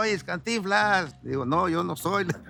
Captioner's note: laughs